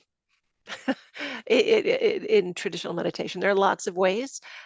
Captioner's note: laughs